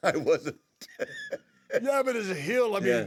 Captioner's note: laugh